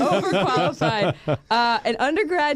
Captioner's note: laughter